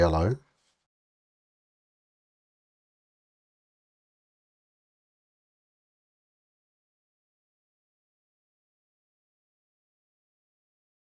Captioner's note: silence